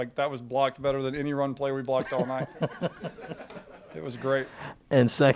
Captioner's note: crowd laughing